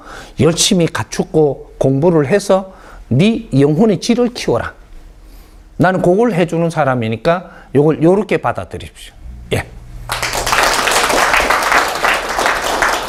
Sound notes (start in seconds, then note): 10.0 audience Applause